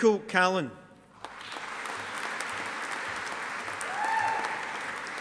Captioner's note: audience applauding